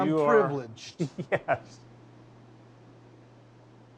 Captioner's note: chuckles